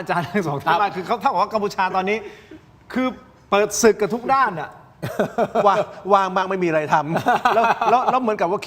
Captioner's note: laughs